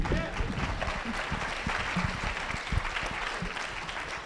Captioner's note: applause